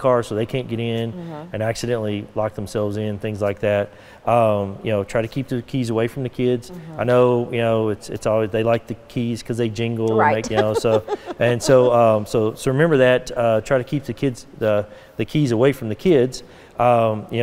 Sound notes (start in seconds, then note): 10.1 laughing